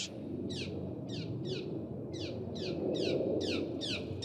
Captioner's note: birdsong, wind noise